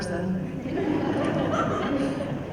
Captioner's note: laughter